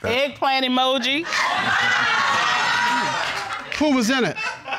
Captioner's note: audience laughing